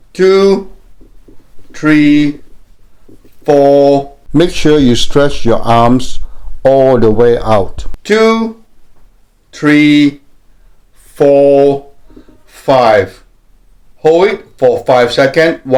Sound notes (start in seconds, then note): 4.1 voiceover